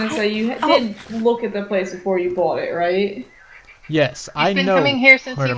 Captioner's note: stompy